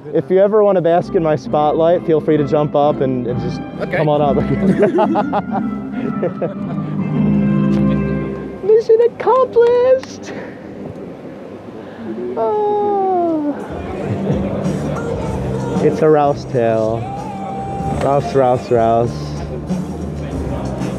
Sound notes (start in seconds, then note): 4.4 laughing; 10.2 happy sigh